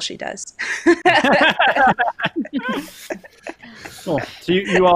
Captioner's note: laughing